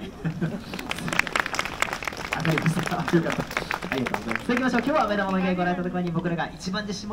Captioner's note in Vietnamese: Vỗ tay